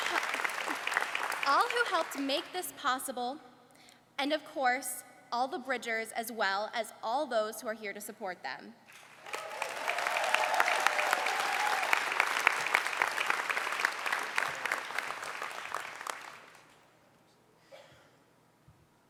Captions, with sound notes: all [Applause]All who helped make this possible, and of course all the bridgers as well as all those who are here to support them. [Applause]